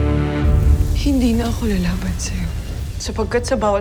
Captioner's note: rousing music playing; infernal whoosh-crackle